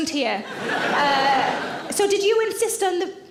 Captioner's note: audience laughing